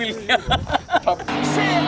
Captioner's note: laughing; laughs